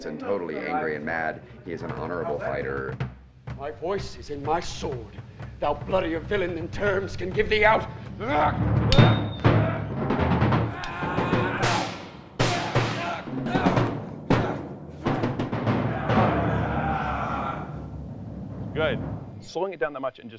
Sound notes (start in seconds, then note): 8.2 intense percussion music; 8.2 screaming